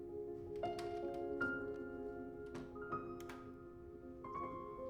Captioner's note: door opens